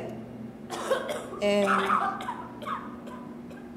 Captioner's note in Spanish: ruidos de tos